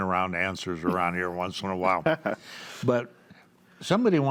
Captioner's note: chuckles